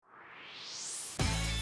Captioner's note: swoosh